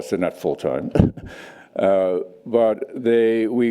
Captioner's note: chuckles